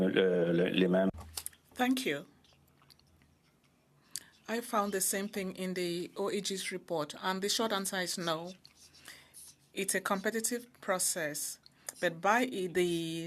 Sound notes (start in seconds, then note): 6.9 speaking French